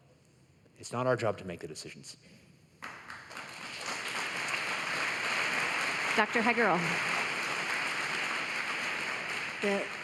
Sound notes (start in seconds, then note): 6.6 applause